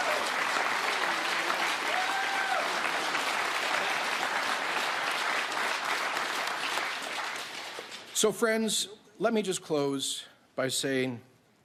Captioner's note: applause